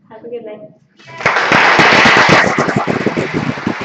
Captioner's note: applause